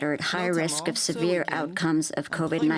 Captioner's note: speaking French